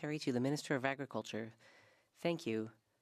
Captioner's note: speaking French